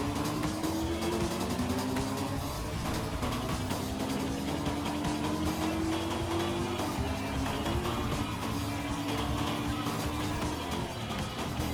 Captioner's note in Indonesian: Suara dari game